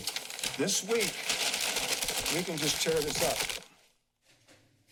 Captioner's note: paper crumpling